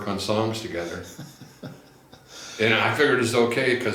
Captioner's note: laughs